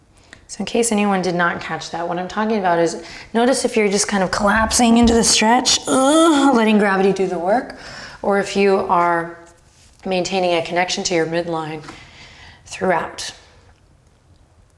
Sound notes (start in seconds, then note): 4.4 groans